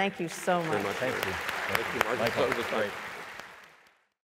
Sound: applause

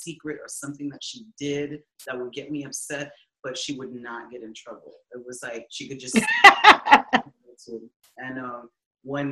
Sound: laughing

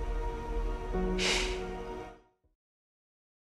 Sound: sighs

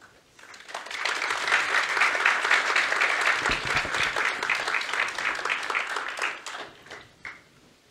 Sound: applause

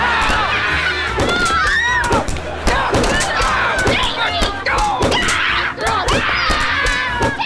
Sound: screaming; screaming

